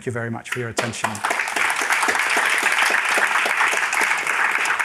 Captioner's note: applause